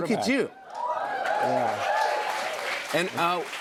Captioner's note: cheers and applause